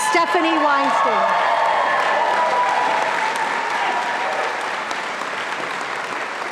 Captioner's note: audience applauding and cheering